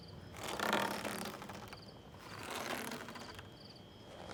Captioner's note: rope creaking